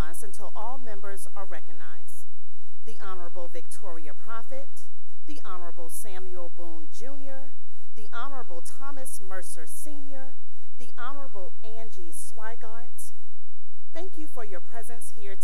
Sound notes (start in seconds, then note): none